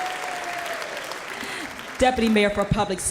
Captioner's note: applause